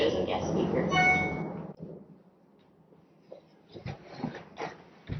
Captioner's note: notification chime